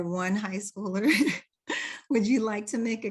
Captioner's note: laughs